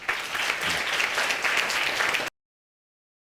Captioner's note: audience applauding